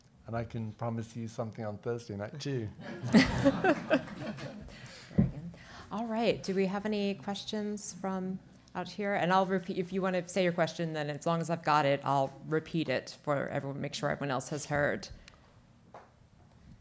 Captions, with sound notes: And I can promise you something on Thursday night, too. (audience laughing) - Very good. All right, do we have any questions from out here? And I'll repeat, if you want to say your question, then as long as I've got it, I'll repeat it for everyone, make sure everyone else has heard.